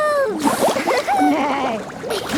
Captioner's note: giggling; giggling, neighing